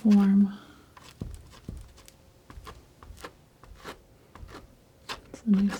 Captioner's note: scratching